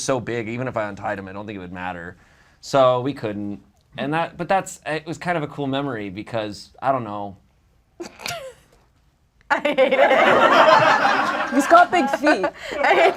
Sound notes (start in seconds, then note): 9.5 laughs; 9.8 audience laughs